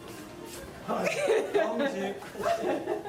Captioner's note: giggles